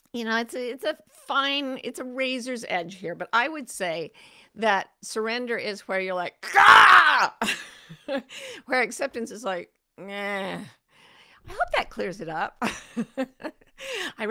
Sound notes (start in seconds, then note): 7.4 laughing; 13.5 laughs